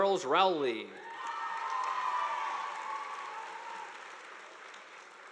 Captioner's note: audience applauding